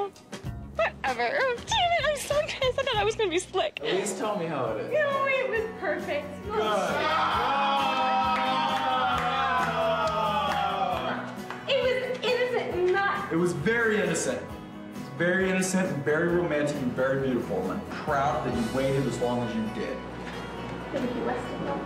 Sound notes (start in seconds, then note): 6.6 cheering; 6.7 clapping